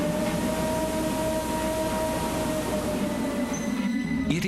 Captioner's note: low moaning